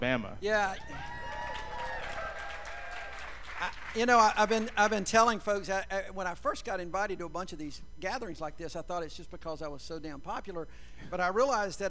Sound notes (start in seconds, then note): 4.0 cheers and applause